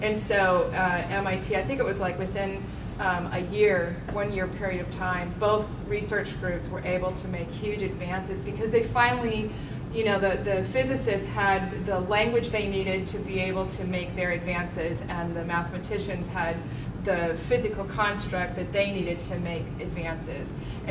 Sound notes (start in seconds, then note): none